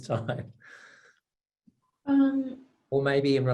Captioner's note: laughter